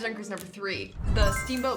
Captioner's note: blip